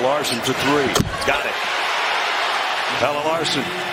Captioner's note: cheers and applause